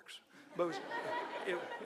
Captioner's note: audience laughing